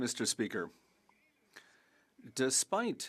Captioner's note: speaking French